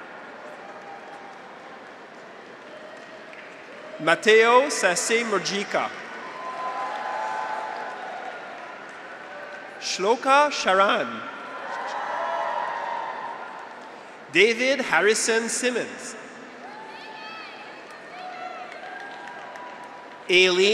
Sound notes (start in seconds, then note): 0.4 audience applauds; 0.8 graduates cheer; 6.2 audience applauds; 6.3 graduates cheer; 11.7 graduates cheer; 16.6 graduates cheer; 17.9 audience applauds